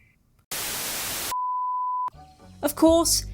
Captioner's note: static